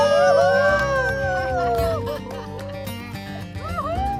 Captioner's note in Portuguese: grito